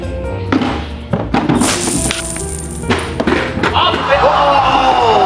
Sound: coins clinking; crowd groaning in dismay

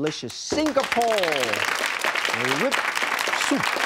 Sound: audience claps

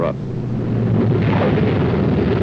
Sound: tires skid

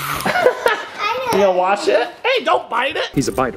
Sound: laughs

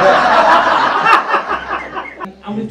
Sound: crowd laughs

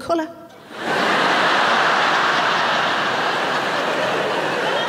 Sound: audience laughing

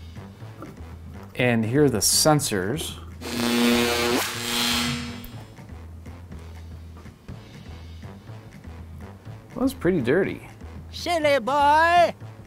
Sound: electric sound effect; old man voice: silly boy

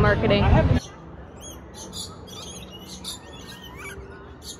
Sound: birds chirping

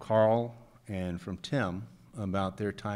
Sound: none

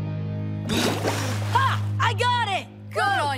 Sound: gasping

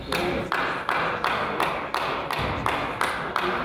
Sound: person applauds

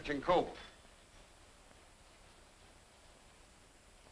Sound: rain pattering

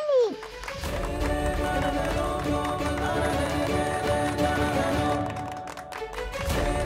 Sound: clapping

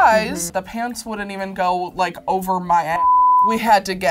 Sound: beep

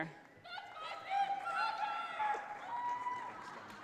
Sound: audience cheers

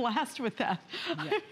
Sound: laughter

